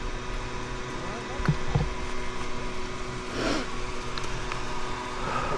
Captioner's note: laughing